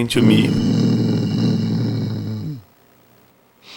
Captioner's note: Groden growls